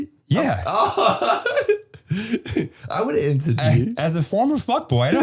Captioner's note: laughing